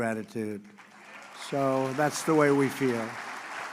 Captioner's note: applause